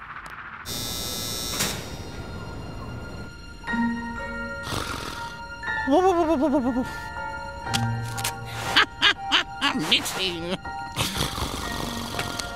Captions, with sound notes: [snoring] Hahahaha, Mixie... [snoring]